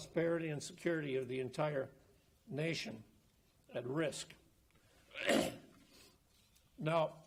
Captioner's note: coughs